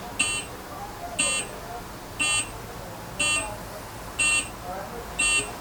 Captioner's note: alarm beeping